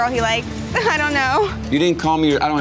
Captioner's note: giggles